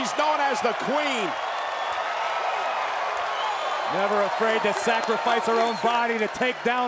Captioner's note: applause